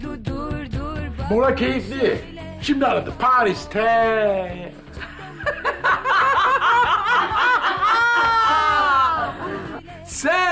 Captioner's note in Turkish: Gülme sesi